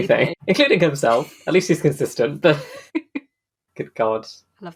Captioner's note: laughs